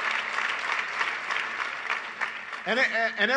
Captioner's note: applause